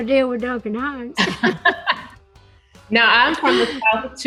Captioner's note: both chuckle